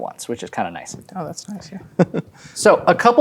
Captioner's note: chuckles